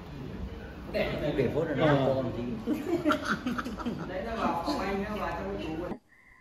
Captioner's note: people chatting